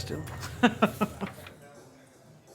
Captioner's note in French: Rires